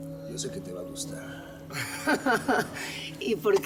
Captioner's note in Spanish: Risas